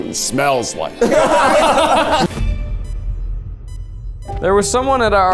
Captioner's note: everyone laughing